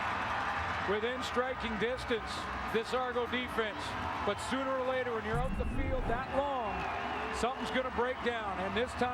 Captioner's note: applause